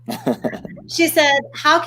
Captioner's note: chuckles